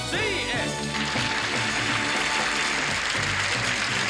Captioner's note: audience applauds; upbeat music